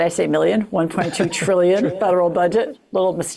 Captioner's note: laughs